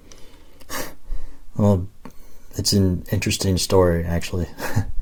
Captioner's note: chuckle